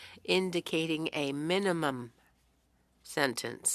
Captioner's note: speaking French